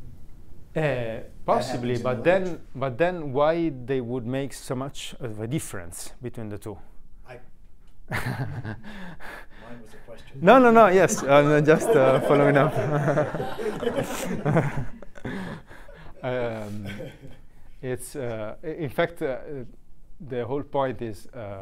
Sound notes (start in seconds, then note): 8.1 laughing; 10.8 group laughing